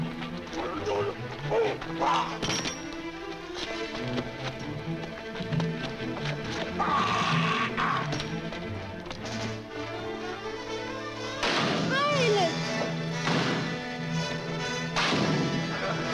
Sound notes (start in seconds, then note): 0.1 man grunting; 6.9 man groaning; 11.4 rock crashes